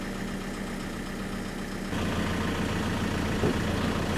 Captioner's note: motor humming